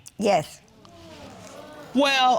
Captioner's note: audience sighing